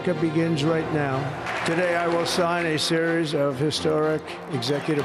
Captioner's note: applause